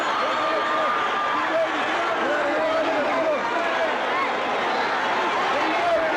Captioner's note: audience chattering continues